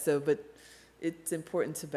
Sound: none

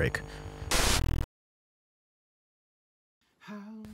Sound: static sound

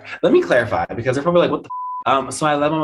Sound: beep

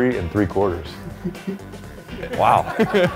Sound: man chuckling

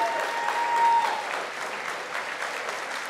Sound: applause

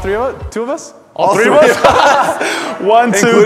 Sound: laughter

